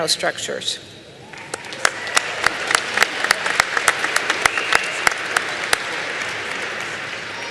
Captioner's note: applause